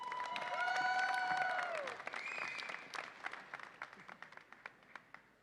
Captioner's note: audience applauds and cheers